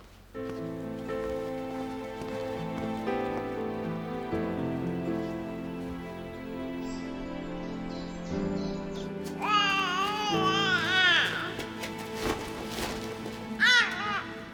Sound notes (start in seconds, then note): 0.2 subdued music; 9.2 Brady cooing